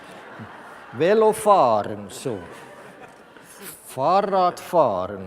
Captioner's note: laughter from the audience